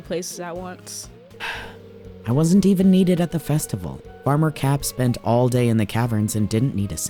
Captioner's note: sighs